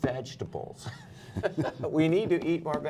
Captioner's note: laughter